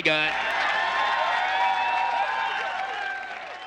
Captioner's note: effeminate voice; audience cheers